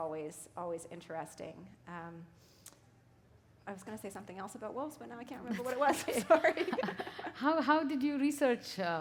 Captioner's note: chuckle